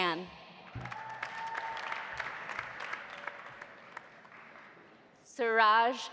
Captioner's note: audience applauding; audience cheering